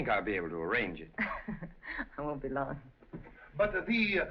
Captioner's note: chuckles